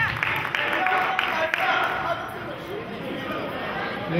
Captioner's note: applauding